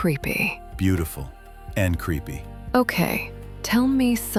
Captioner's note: low voice